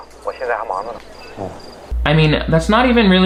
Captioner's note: man over phone speaking in foreign language; Martin speaking in foreign language